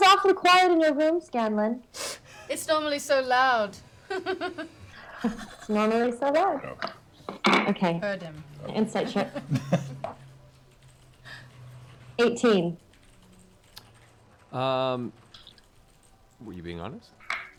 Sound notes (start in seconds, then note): 3.7 laughs